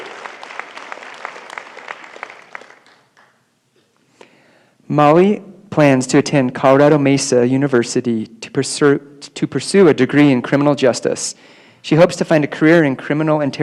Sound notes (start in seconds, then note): 0.0 applause